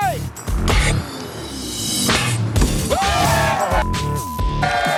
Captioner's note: cheers and applause; laughing